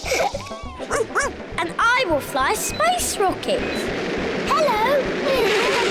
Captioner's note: all laugh; barks; all laugh